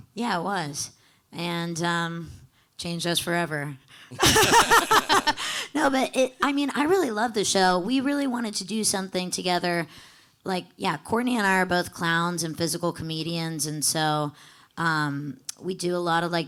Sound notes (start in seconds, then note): 4.2 panelists laughing